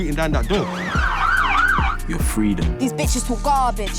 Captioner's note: sirens wailing